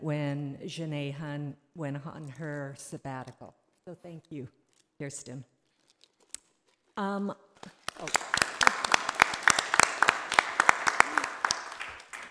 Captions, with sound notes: when Jennae Hun went on her sabbatical. So thank you, Keirsten. (audience applause)